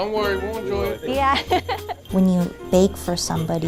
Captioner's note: laughs